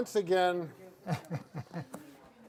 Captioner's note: laughs